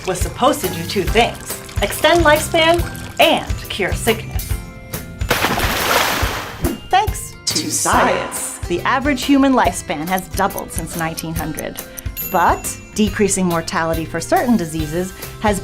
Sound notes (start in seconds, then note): 5.2 water splashing